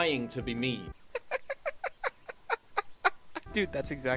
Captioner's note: hahaha